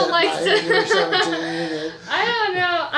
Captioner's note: laughs